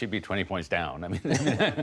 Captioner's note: laughter